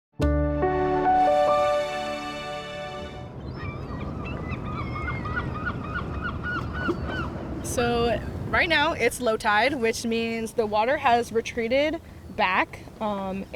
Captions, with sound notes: (ethereal piano music) (birds cawing) - So right now, it's low tide, which means the water has retreated back